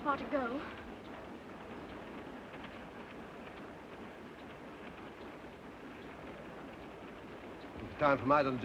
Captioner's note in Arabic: قطار يهدر بهدوء